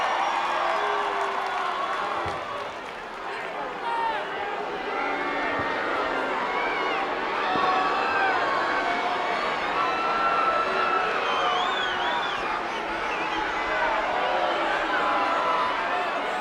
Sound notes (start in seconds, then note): 5.7 crowd boos; 11.8 crowd whistling